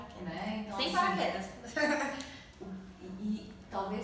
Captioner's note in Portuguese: risos